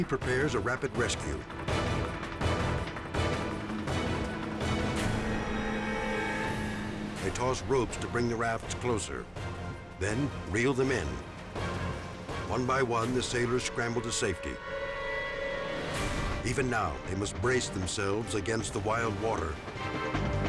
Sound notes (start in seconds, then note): 2.5 dramatic music continues; 5.1 engine whirring